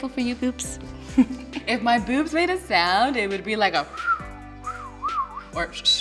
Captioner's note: whistles